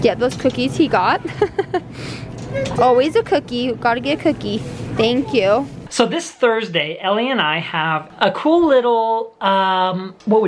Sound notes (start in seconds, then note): 1.0 laughing